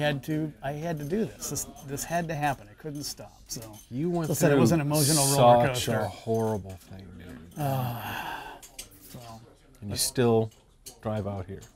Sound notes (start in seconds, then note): 7.6 sigh